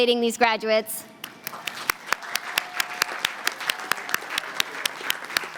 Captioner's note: applause